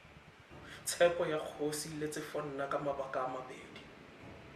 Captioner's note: speaking setswana